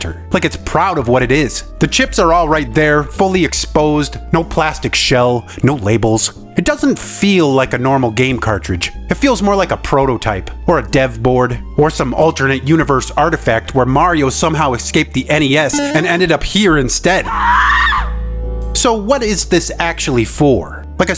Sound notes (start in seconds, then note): 18.8 woman Screams